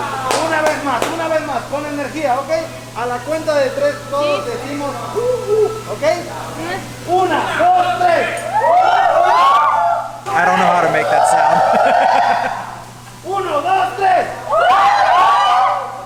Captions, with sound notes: One more time! One more time! With energy! Okay! On the count of 3, we'll say "Ooh Ooh!" Okay? 1, 2, 3. Woo! Woo! I don't know how to make that sound. [Laughs] 1, 2, 3. Woo! Woo!